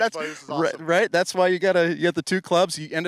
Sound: overlapping chatter

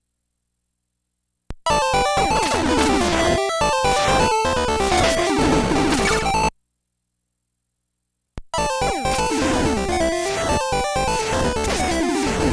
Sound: game audio

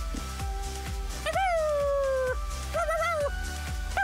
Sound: howling

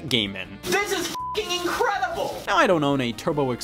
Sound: beep

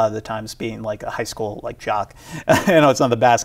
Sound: chuckles

